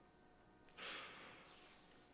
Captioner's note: sighs